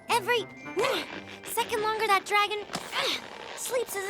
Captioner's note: grunts